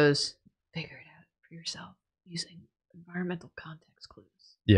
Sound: quietly

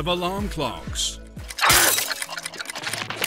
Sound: smashing

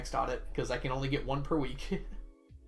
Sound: laughs

